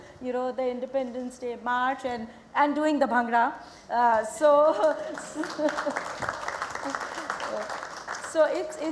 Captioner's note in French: Applaudissements